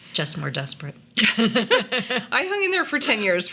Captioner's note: laughing